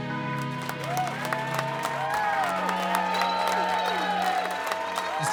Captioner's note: people cheering